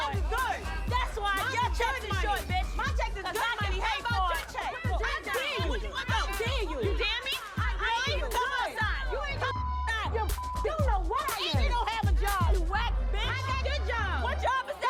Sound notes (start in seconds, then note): 4.9 women yelling incoherently